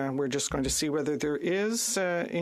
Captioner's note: speaking French